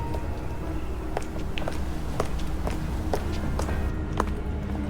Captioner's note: footsteps